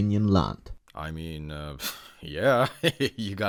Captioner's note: laughing